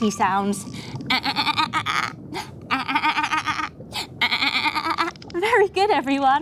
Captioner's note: mimicking the giggle of a dolphin